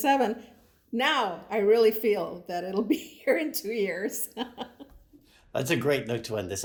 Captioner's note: laughs